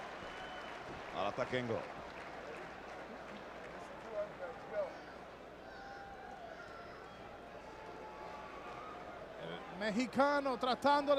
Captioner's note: applause